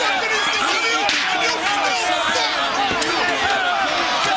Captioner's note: crowd clamoring